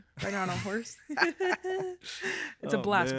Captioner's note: laughing